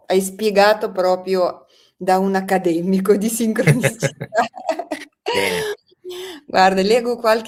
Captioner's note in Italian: risate; suono gutturale